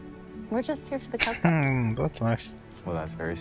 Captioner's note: chuckling